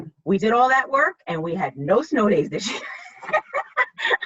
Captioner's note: laughs